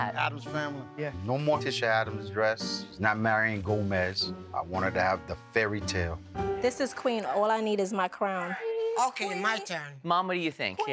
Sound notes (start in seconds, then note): 8.1 sing-song